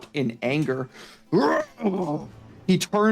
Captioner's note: pained Noises